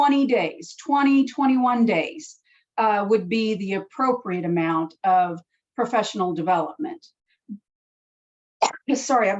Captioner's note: cough